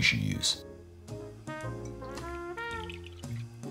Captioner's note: liquid pouring